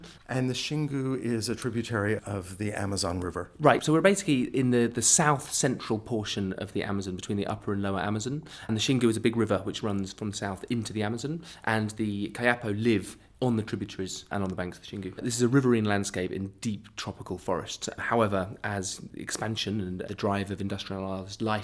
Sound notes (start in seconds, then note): 0.4 voiceover